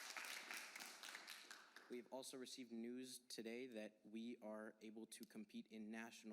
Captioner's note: applause